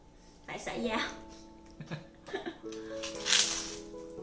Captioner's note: laughing